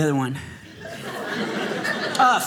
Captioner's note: audience laughing